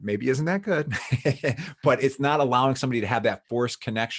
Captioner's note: laughs